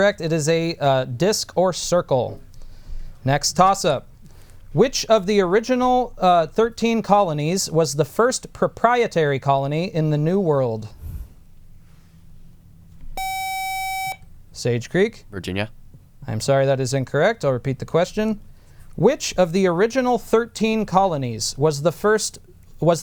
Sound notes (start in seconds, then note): 13.2 buzzer